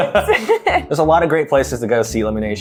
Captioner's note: both laughing